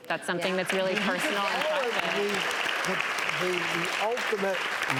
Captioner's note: applause